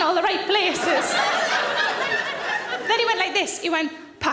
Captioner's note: audience laughing